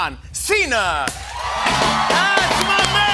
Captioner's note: cheers and applause